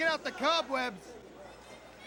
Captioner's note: crowd chatter